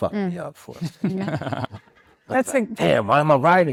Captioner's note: speakers chuckling